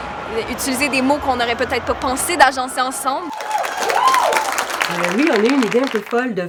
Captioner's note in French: Applaudissements